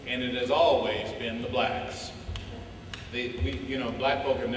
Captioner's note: none